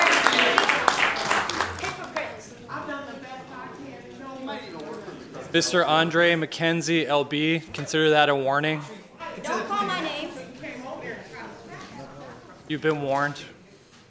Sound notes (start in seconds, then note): 6.3 applause